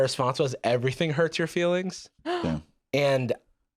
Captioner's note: gasps; laughs